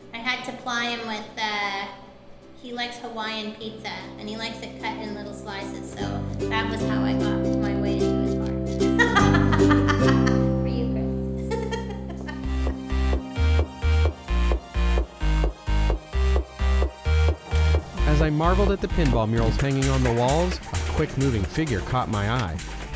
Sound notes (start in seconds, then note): 8.9 laughing; 12.1 electronic music